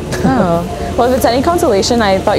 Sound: chuckles

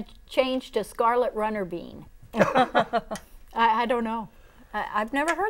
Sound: laughing

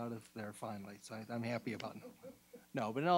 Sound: laughing

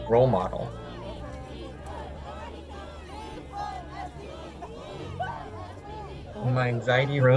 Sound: overlapping chattering; people chanting

